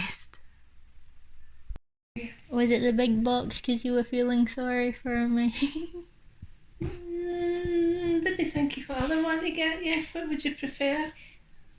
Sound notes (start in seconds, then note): 6.1 laughs